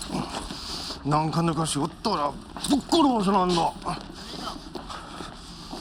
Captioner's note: speaking Japanese